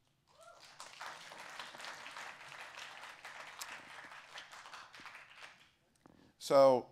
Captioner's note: applause